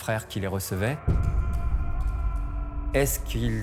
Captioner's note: screams